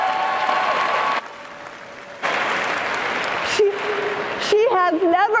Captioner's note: cheering and applause